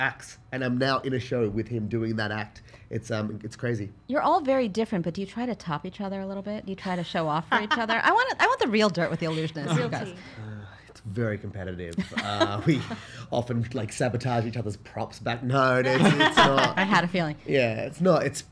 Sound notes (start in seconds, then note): 10.0 sighs